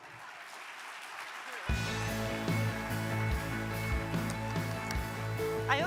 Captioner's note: audience applauding; upbeat music